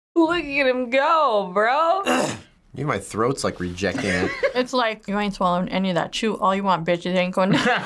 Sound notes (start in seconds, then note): 2.1 clears throat